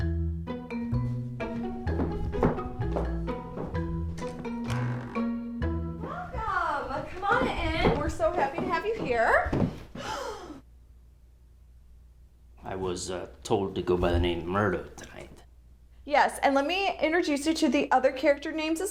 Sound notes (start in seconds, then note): 9.5 gasps